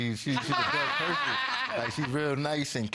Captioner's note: laughing